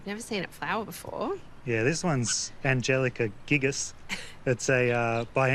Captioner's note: chuckles